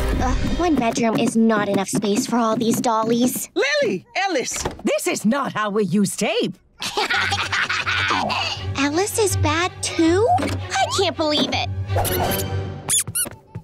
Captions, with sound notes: One bedroom is not enough space for all these dollies. Lily, Ellis, this is not how we use tape. [laughing] Alice is bad, too? I can't believe it. [squeaking]